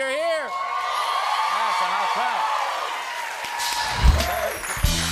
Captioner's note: cheering and applause